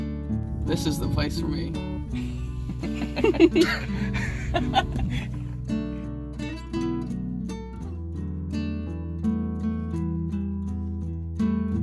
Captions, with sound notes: This is the place for me. (Laughing) (Soft acoustic guitar music)